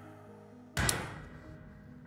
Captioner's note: gunshot